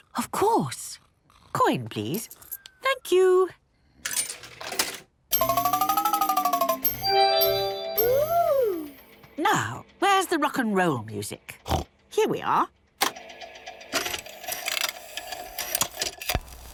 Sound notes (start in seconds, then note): 5.3 beeps and chimes; 13.0 clicks, whirring